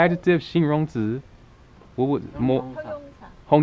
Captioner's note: mandarin